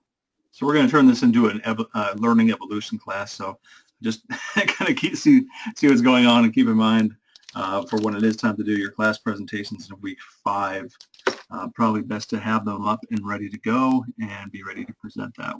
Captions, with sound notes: So, we're gonna turn this into a learning evolution class. So just [LAUGH] kinda see what's going on and keep in mind for when it is time to do class presentation in week five. Probably best to have the luck and ready to go, and be ready to present that way,